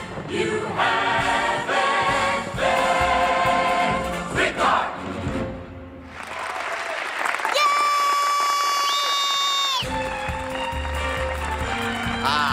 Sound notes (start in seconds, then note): 6.0 audience applauding; 8.7 whistling; 9.8 upbeat music